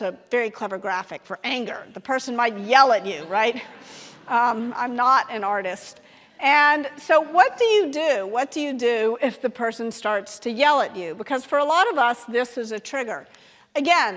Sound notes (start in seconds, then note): 3.2 audience laughing